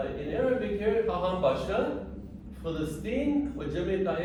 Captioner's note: speaking arabic